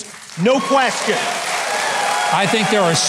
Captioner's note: audience cheers and applauds